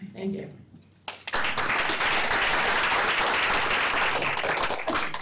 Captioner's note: applause